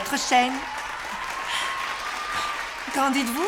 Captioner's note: applause, cheering